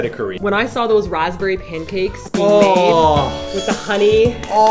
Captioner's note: moaning